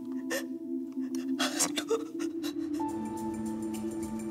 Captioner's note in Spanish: sollozos